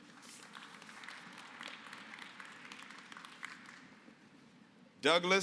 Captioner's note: applause